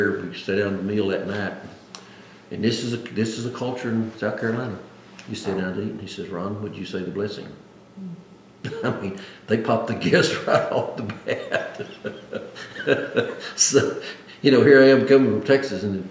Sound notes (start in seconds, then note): 13.9 laughs